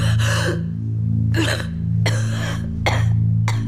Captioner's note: cough cough